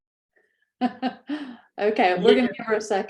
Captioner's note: laughs